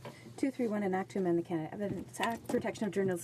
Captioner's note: speaking in french